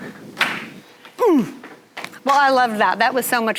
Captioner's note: grunting